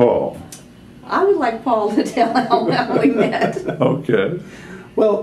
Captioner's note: laughter